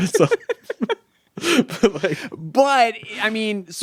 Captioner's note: chuckling